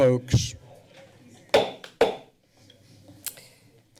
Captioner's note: gavel thuds